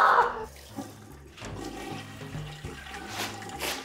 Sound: toilet flushes; paper towel crinkles

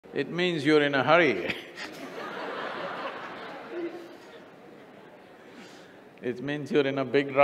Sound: laughter

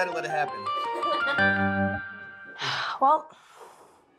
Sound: laughing; sighs

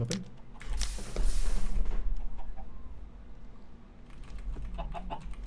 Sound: flame ignites; flame extinguishes; gasps; keyboard clacking

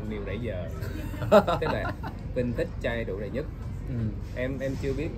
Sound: laughters

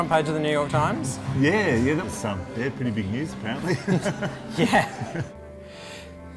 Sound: laughs

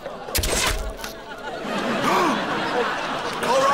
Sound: gasping; screaming

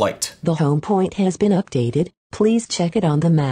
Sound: voiceover

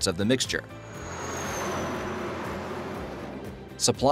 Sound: truck passing

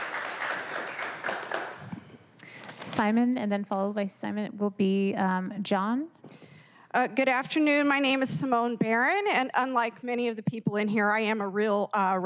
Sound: applause

